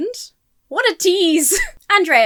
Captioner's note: chuckles